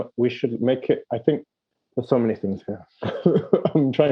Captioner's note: laughing